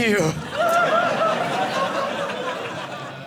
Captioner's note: audience laughing